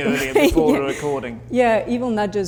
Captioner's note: laughs